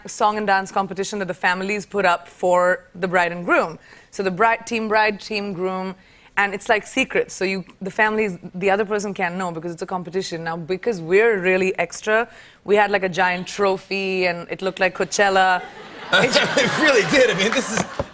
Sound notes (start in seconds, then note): 15.5 laughter